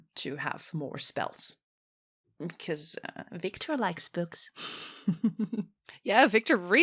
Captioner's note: laughs